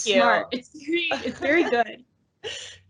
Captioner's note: laughs